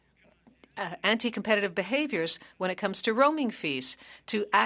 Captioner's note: speaking French